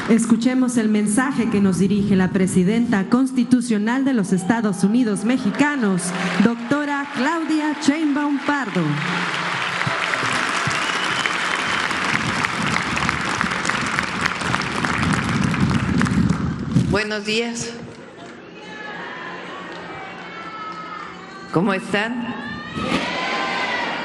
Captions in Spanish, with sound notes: Escuchemos el mensaje que nos dirige la presidenta constitucional de los Estados Unidos Mexicanos, doctora Claudia Chinba Un Pardo. [aplausos] Buenos días. ¿Cómo están?